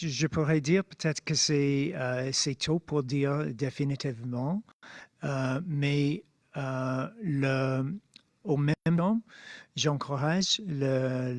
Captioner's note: speaking French